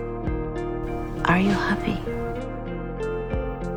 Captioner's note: voiceover